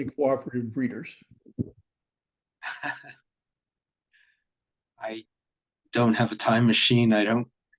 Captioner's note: laughter